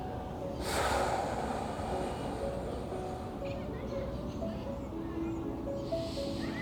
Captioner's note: participant sighing deeply; gentle poignant music continues